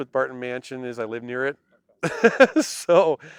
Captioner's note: giggles